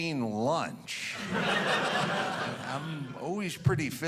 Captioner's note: audience laughing